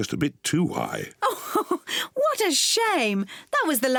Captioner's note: laughs